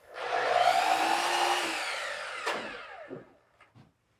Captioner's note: saw buzzing